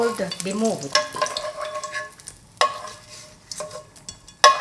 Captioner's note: spoon scraping pan